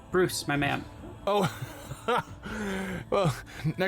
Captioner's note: laughs